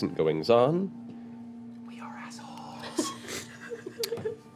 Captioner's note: whispering